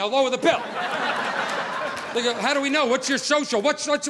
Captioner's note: audience laughing